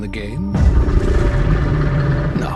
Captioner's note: creature roars